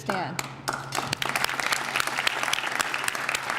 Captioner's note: applause